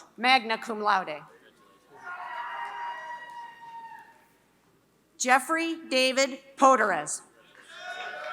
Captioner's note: applause